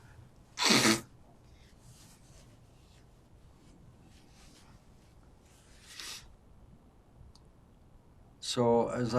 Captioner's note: wiping nose